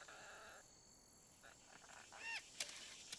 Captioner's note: squawks